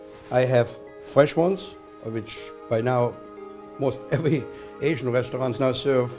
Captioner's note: laughs